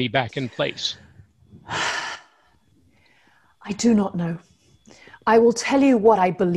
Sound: sigh

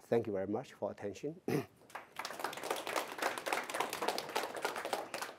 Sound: applause

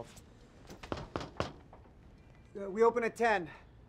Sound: soft knocking

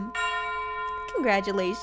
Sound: bells ringing

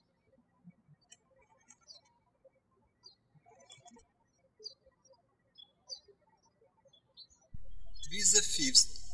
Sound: birds chirping

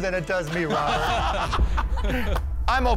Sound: laughter

